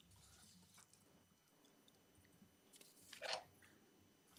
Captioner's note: paper rustling